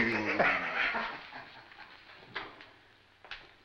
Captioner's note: laughing